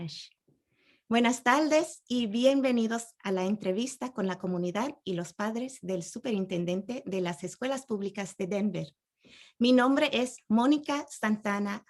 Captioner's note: speaking Spanish